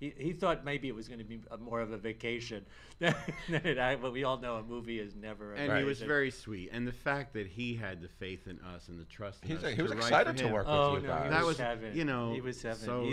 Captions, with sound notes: He thought it was going to be more of a vacation. (laughs) But we all know, a movie is never that. - And he was very sweet. And the fact that he had the faith in us and the trust in us. - He was excited to work with you guys. - He was heaven.